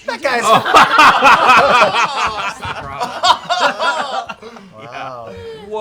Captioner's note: laughter